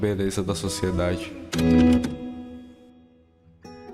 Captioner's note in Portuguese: barulho de fita